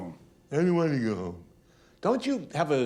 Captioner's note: mocking